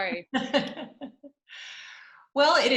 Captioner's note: laughing